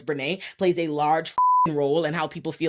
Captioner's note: beep